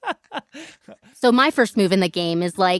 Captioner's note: laughs